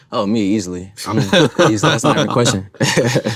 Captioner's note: laugh